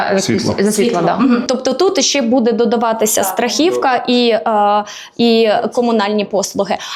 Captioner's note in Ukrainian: прочищення горла